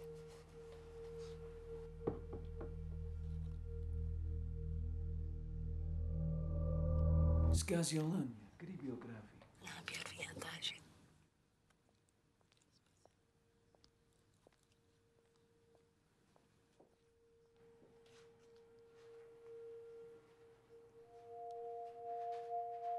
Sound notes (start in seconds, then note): 0.0 gentle electronic music; 9.8 speaking in a foreign language; 19.3 gentle electronic music